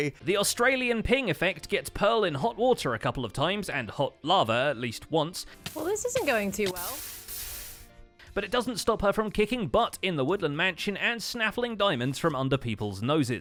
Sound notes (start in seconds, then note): 5.6 damage noises, sizzling